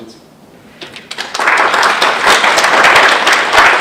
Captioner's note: applause